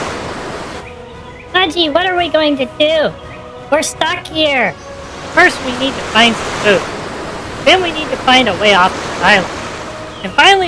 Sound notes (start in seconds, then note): 5.8 calmly